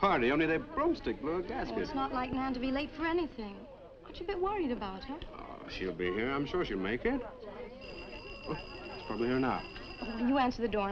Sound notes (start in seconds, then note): 7.8 doorbell ringing